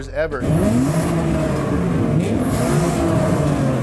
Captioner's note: engine revving